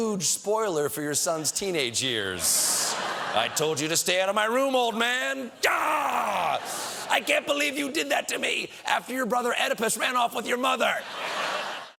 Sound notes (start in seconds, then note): 10.9 laughter